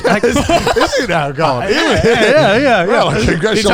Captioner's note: all laughing